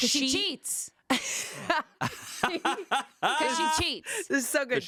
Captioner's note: laughing